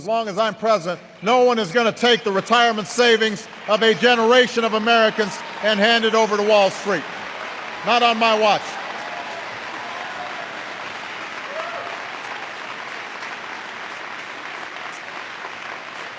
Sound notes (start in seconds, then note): 13.1 applause